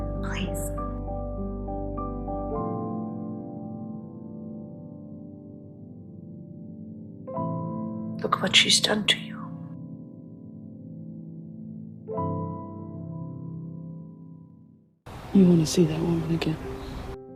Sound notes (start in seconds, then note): 15.3 voiceover